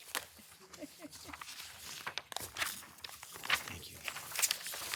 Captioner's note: papers rustling